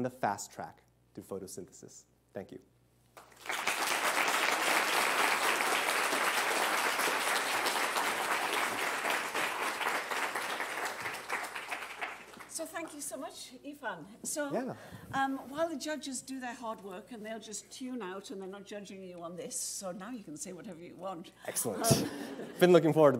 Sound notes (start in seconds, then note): 6.9 applause